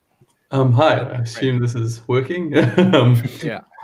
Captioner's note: laughs